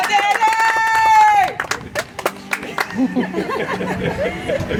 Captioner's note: audience applauds